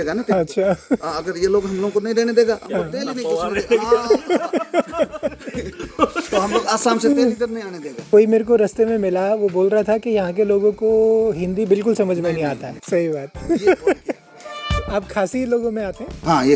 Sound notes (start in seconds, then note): 2.6 laughing